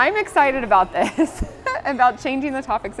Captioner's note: laughing